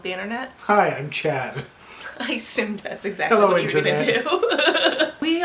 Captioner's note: laughter